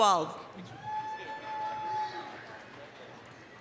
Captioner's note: applause, cheering